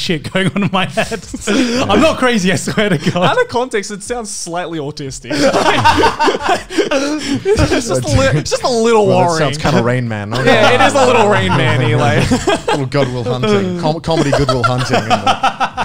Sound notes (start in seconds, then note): 5.2 group laughs; 13.6 laughs